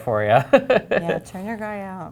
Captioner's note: chuckles